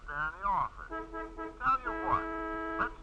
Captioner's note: horn honking